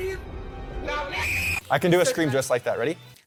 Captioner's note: streamer screams